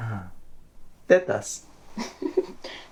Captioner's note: speaking in foreign language; Annabelle laughing